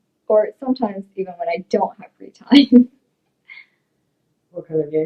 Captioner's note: giggles